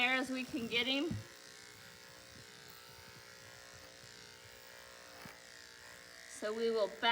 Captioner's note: clippers buzzing